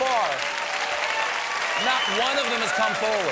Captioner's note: cheers and applause